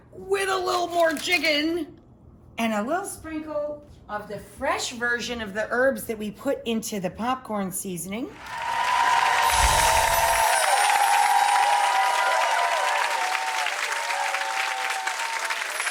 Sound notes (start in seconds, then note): 8.3 crowd cheering; 9.4 bright chimes